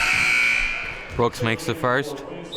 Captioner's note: buzzer sounding